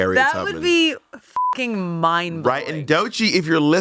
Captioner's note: beep